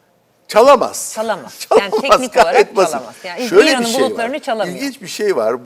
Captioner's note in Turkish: kahkaha